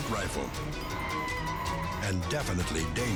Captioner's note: tires screeching